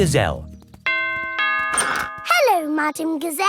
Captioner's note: doorbell rings